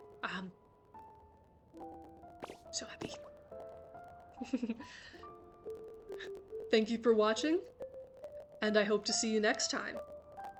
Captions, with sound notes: Um.... So happy. (giggles) Thank you for watching. And I hope to see you next time.